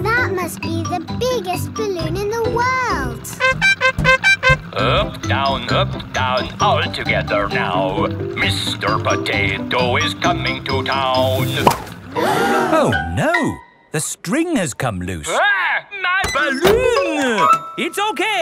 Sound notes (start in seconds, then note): 3.3 horn beeping; 12.0 all gasp